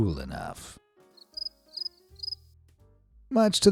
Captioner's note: crickets chirping